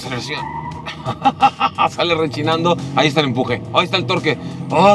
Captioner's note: tyres squealing; laughing